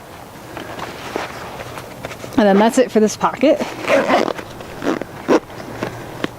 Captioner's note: zipper